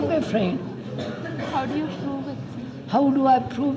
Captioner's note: laughter